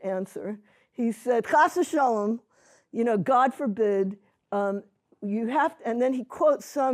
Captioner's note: non-english